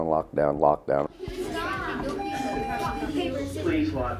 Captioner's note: children chattering; alarm chimes